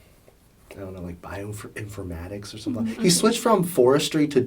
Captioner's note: sighs